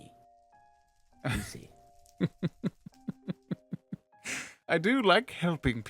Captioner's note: laughs slowly